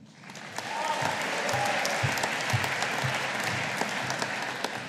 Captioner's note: audience applauding